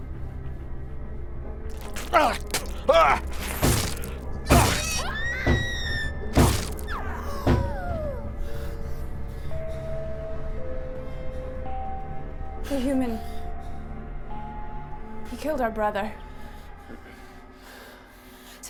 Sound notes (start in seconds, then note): 1.7 spits; 1.8 thudding; 4.4 screams; 6.3 thudding